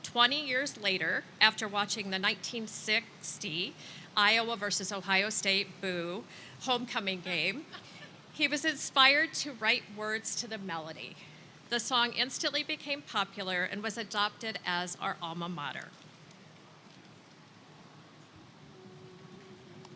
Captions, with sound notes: 20 years later, after watching the 1960 Iowa versus Ohio State, boo, homecoming game, (attendees laughing) he was inspired to write words to the melody. The song instantly became popular and was adopted as our alma mater.